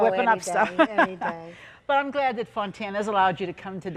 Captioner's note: laughing warmly